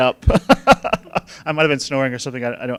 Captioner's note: laughing